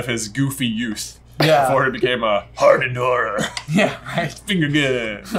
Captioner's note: deep dramatic voice